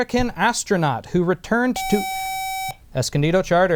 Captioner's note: buzzer